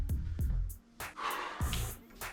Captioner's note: breathes heavily